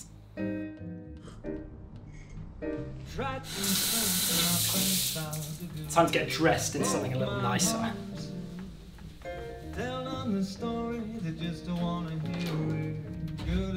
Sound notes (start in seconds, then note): 0.2 jazz music begins; 3.4 water sizzles